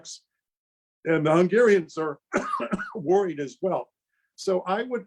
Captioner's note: coughs